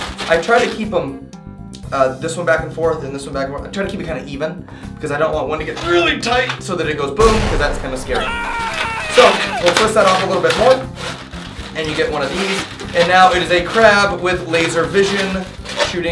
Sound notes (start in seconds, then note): 11.1 ahhh!